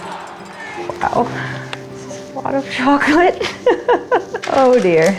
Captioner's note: laughing